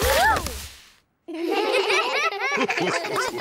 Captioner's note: all giggle